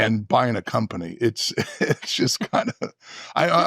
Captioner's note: chuckling